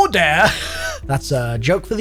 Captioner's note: chuckles